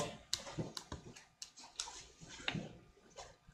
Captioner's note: keyboard clicking